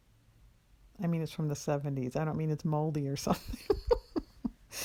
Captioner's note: laughs